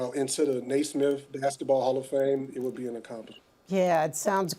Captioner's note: none